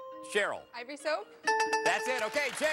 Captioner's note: buzzer rings; bell rings